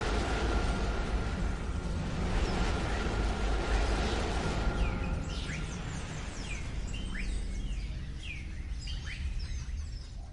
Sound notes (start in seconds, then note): 0.2 suspenseful music; 5.0 insects chirping